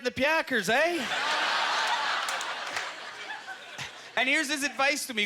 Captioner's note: audience laughter